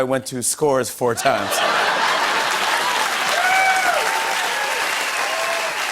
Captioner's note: laughter, cheers and applause